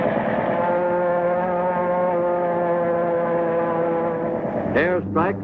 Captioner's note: airplane engine roaring